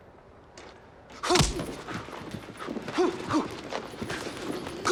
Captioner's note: grunting